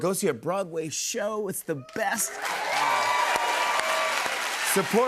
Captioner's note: cheers and applause